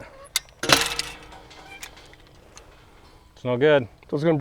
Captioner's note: wire breaks